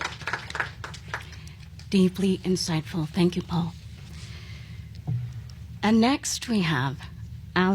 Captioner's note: applause